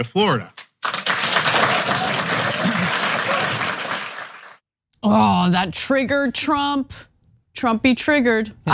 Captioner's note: applause